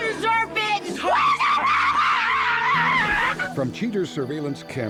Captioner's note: screaming